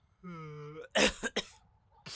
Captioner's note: coughing